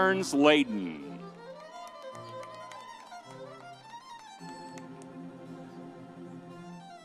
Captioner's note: vibrant music continues; audience cheers